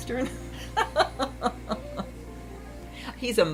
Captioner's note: laughs